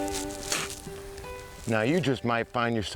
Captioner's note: twangy music continues; spits